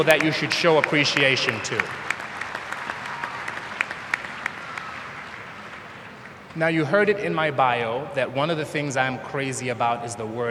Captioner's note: applause